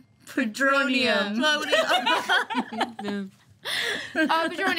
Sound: laughing

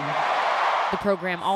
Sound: applause; cheering

